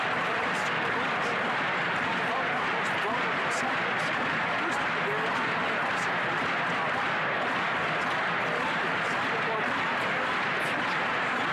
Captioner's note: chanting